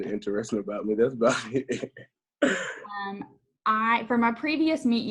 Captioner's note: laughs